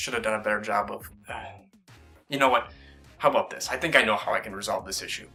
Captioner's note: sighs